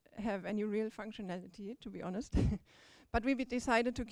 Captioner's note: chuckles